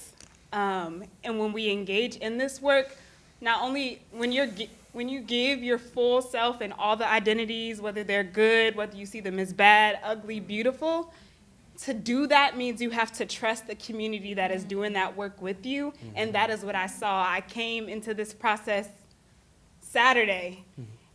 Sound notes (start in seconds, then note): none